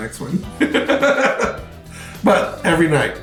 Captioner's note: laughs